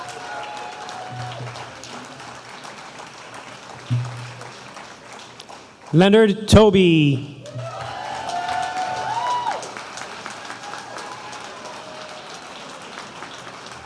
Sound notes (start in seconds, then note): 9.1 cheers and applause